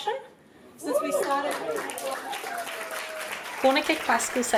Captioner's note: applause